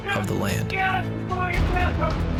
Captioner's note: yelling